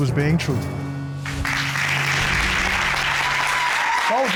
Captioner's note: applause